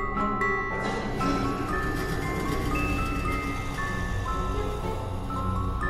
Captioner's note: entity laughs and growls